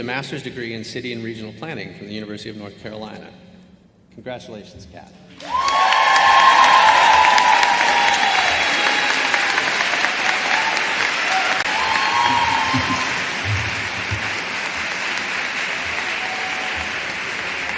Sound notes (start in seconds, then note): 5.3 applause